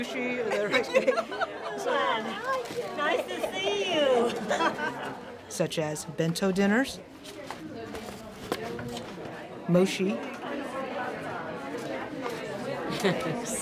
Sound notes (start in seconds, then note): 0.5 laughing